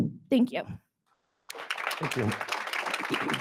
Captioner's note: attendees applauding